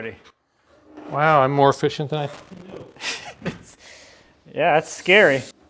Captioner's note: laughs